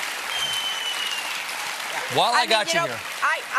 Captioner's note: cheers and applause